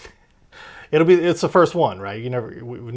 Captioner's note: laughs